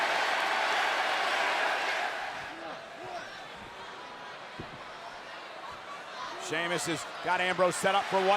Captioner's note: applause